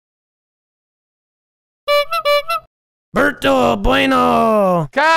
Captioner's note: bike horn